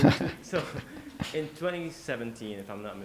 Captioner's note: laughs